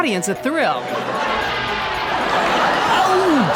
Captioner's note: audience laughing loudly